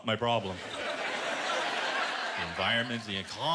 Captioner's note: laughter